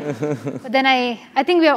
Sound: laugh

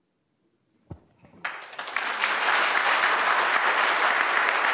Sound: applause

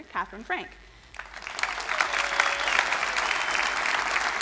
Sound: crowd applauding

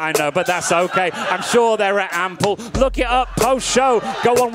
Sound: audience laughing

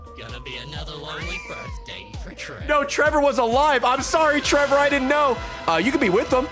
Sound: laughs

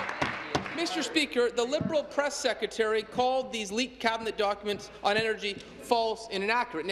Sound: applause

